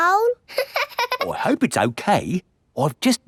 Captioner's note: laughing